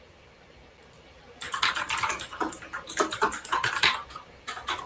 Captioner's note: keyboard clacks